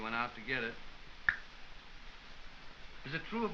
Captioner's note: clicks tongue